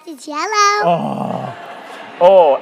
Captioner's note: crowd laughing